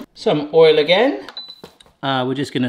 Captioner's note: button beeps